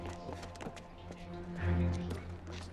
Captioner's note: footstep